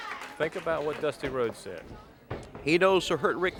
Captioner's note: crowd cheering